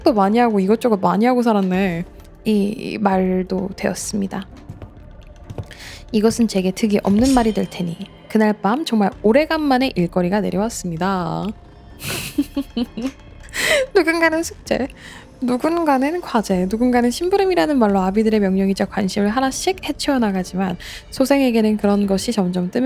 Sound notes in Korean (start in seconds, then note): 12.0 웃음; 12.9 콧방귀